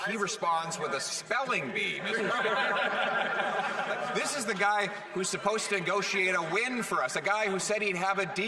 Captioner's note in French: voix de l'interprète